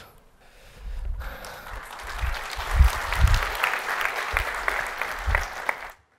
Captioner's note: applause